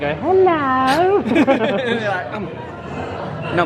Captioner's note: both laugh